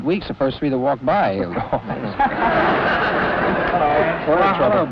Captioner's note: everyone laughs